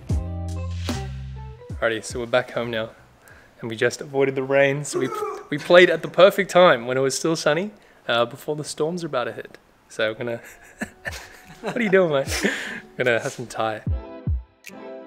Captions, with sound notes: All righty. So we're back home now. And we just avoided the rain, so we played at the perfect time when it was sunny before the storm's about to hit. So we're going to... (chuckles) What are you doing, mate? We're going to eat some Thai.